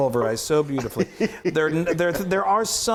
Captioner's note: laughs